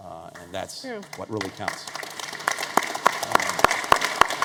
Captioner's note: applause